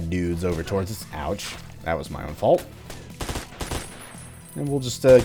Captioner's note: more gunfire